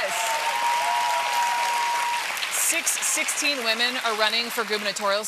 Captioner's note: applause